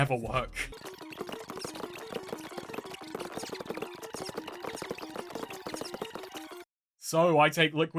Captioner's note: fast rewind noises